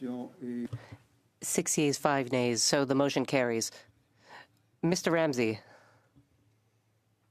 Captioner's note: speaking French